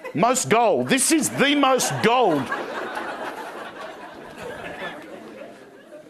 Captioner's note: crowd laughing